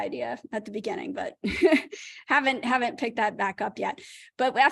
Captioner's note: laughter